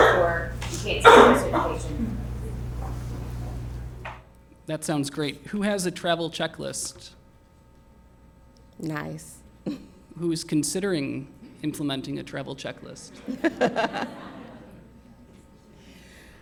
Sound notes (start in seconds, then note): 9.5 laughs; 13.0 laughter